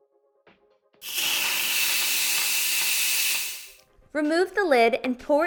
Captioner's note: Instant Pot hissing